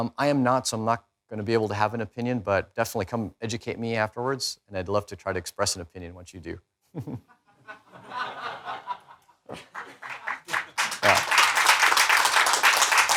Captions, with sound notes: I am no, so I'm not gonna be able to have an opinion, but definitely come educate me afterwards. I'd love to try to express an opinion once you do. (people laughing) (people applauding)